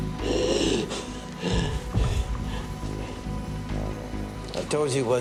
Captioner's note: gasping subsides slowly